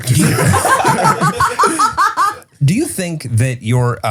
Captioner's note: all laughing